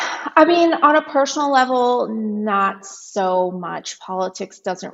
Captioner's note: sighs